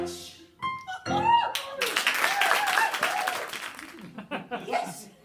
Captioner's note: audience cheer and applaud